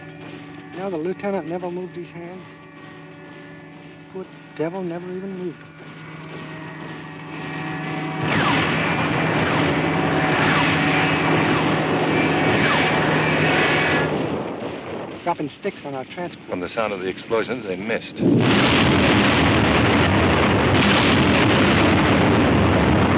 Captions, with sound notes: Do you know, the Lieutenant never moved his hands? Good devil never even moved. [PLANE WHOOSHING] Dropping sticks on our transport. From the sound of the explosions, they missed. [EXPLOSIONS]